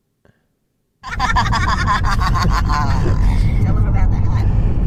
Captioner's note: helium laughter